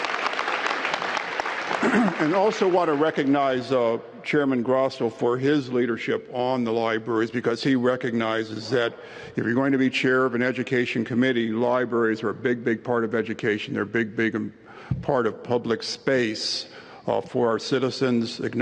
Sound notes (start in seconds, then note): 0.0 applause